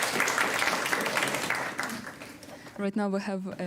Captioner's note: applause